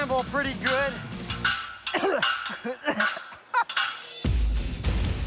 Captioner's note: coughs, laughs